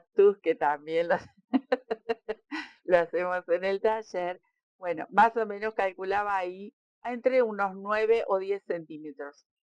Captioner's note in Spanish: risas